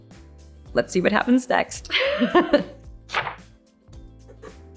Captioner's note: chuckles